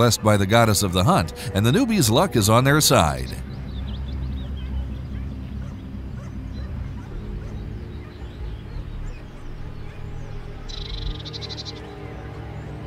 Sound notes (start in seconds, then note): 4.3 dogs barking; 4.3 tense music